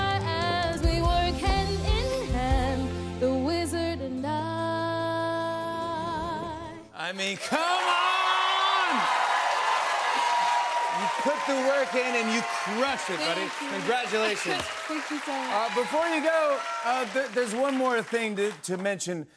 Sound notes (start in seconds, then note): 8.8 cheers and applause